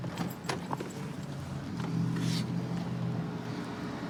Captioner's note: distant traffic hum